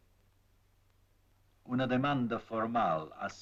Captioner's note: in Spanish